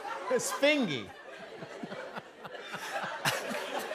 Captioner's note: laughter